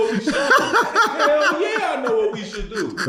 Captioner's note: laughing